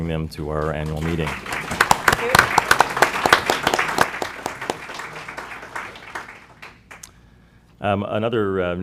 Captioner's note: applause